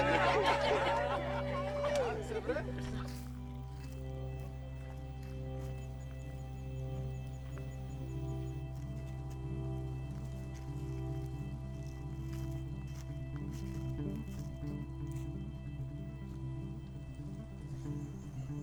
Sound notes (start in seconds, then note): 1.5 soft string sound; 2.3 footsteps on grass